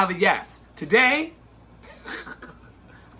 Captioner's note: laughs sarcastically